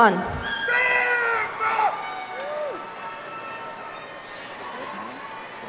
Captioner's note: man in audience shouting